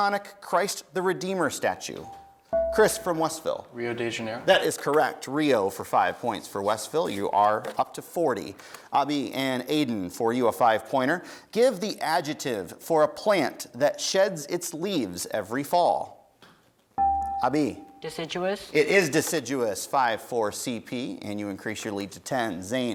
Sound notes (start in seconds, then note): 17.0 dinging